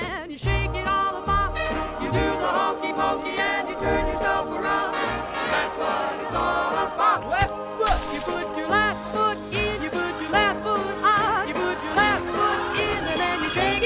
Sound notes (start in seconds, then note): none